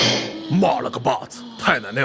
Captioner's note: grunt